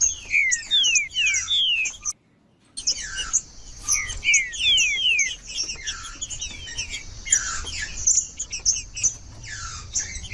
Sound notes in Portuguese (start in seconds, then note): 1.2 trinca ferro cantando; 3.2 trinca ferro cantando; 5.2 trinca ferro cantando; 7.2 trinca ferro cantando; 9.2 trinca ferro cantando